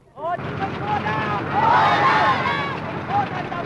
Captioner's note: inaudible cheering